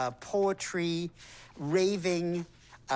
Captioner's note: none